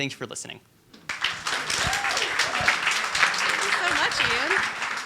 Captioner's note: audience applauding